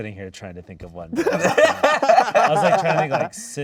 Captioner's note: all laughing